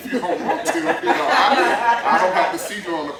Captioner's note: laughter